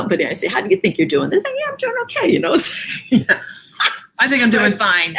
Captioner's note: laughs